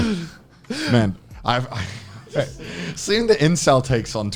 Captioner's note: chuckles